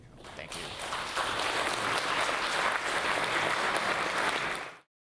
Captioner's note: audience applauding